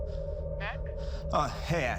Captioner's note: on phone